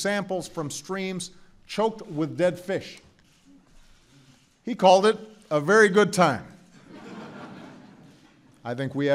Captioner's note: laughter